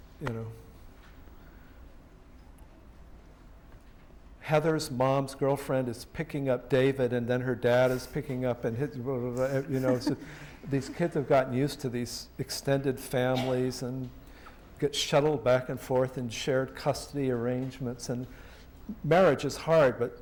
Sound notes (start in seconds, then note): 9.3 muttering